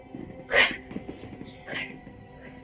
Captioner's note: sobbing